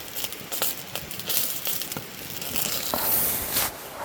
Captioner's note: sizzle sizzle